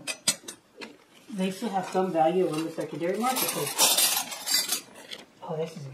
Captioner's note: sound of clanking flatware